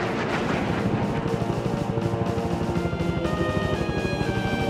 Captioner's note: helicopters whirring